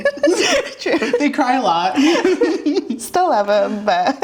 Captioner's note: laughing